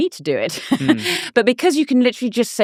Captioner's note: laughing